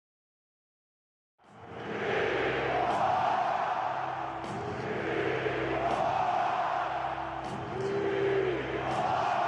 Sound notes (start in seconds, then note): 1.5 crowd cheering: SEAHAWKS!